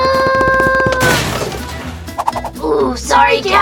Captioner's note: crashing and banging